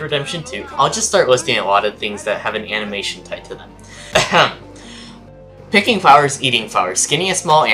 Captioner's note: ahem